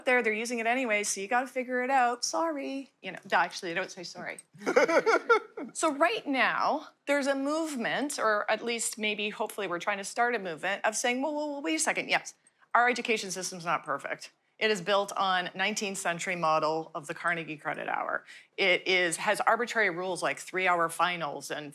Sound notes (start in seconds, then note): 2.5 sing song voice; 4.6 laughter